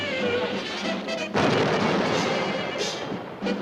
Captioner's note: explosion